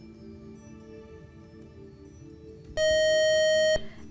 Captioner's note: buzzer